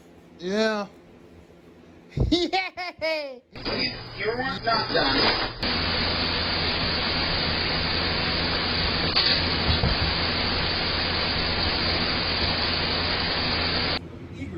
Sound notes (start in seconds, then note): 2.2 Ella laughs and giggled